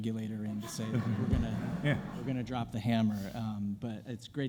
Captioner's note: audience laughing